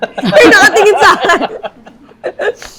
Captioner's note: laughs